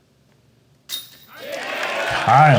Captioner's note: crowd cheering